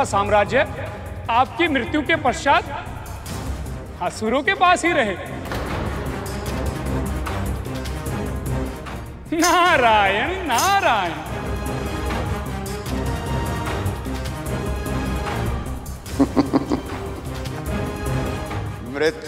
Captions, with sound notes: You got drawn to my haven. Welcome. Please indulge in pleasures here. [laughs] Sage, don't be hesitant.